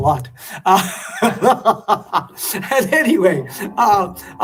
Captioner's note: laughter